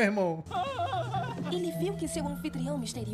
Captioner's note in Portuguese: grito